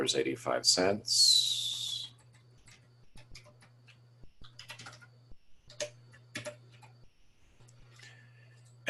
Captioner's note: typing Sounds